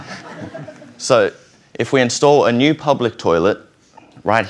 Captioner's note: laughter